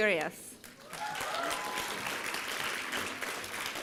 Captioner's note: applause